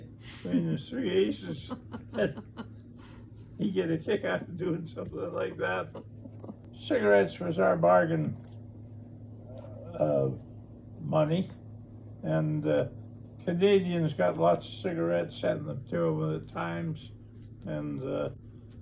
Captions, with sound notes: (interviewer laughs) meaning three aces. (chuckles) He'd get a kick out of doing something like that. Cigarettes was our bargain money and Canadians got lots of cigarettes sent to them at times.